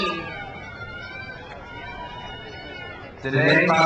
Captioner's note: crowd cheers